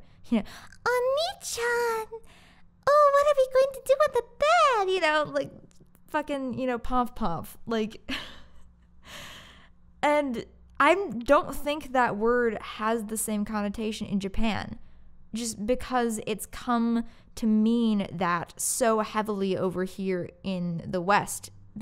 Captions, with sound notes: You know, "Onii-chan~! Oh, what are we going to do on the bed?" You know, like, fucking, you know, Pomf Pomf, like... *silent laughter* and... I don't think that word has the same connotation in Japan, just because it's come to mean that so heavily over here in the West